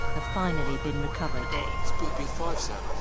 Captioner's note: windy noises